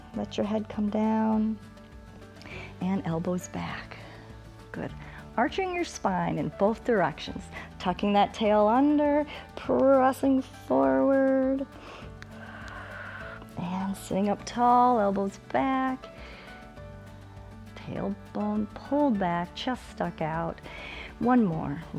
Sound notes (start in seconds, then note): 11.7 inhales and exhales